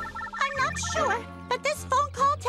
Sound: phone rings

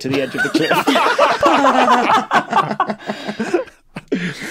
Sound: group laughs uproariously

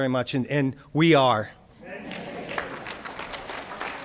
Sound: crowd; applause

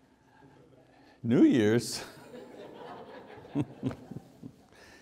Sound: audience laughs

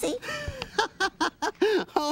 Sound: laughs

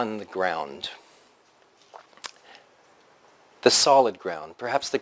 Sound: pause

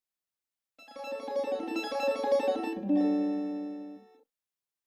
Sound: 16-bit chime plays

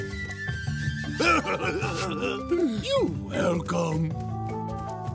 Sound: chuckling

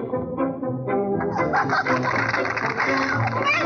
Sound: applauding

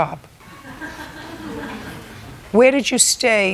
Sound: laughter

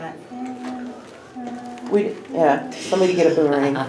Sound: humming

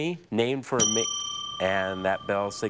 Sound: bell dings

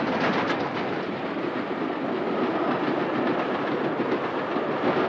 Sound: train engine roars

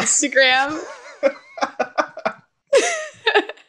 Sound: laughs

